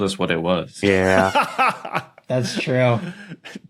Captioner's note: laughs heartily